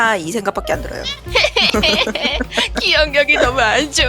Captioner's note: crying